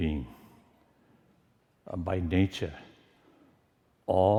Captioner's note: none